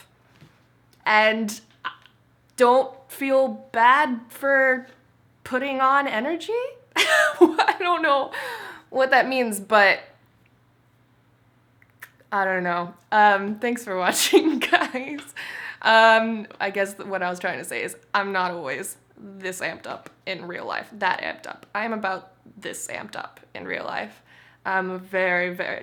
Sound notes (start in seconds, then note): 7.4 laughs